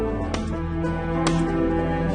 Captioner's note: shotguns blast